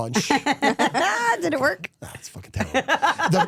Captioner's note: laughs